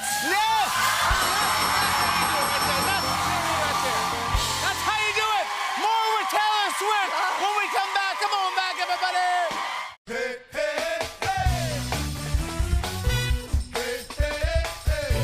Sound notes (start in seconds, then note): 0.6 cheers and applause; 1.6 dinging